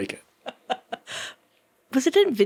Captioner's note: laughing